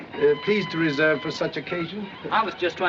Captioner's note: none